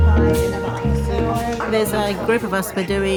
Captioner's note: group chattering